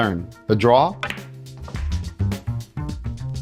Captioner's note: pool table balls clacking; upbeat music